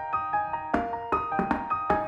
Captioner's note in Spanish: Golpeando